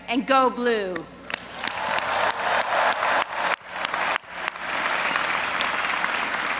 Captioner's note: audience applauding and cheering